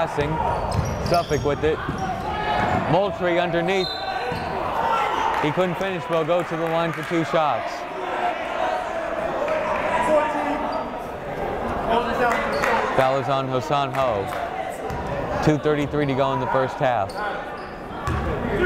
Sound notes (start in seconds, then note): 3.8 whistle blowing; 9.5 yelling